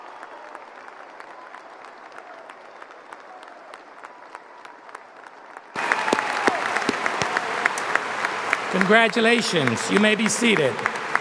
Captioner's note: applause